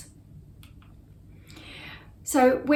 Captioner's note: mouse clicks